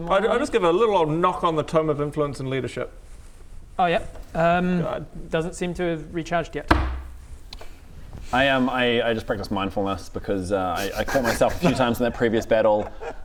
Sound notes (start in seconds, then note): 6.6 offended thump